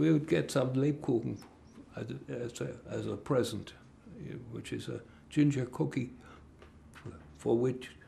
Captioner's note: german